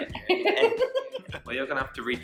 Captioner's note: laughing